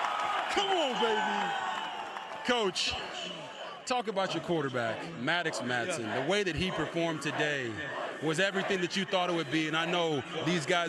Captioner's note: cheers